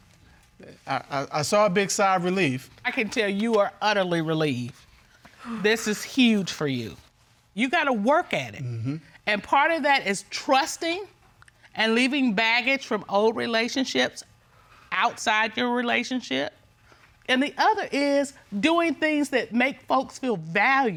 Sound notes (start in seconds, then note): 5.4 sighs